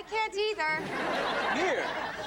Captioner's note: audience laughs